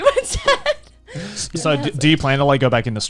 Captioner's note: laughing